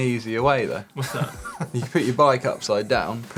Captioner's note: laughter